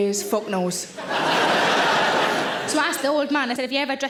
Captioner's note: audience laughing